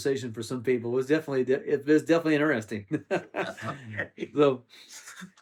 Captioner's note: laughs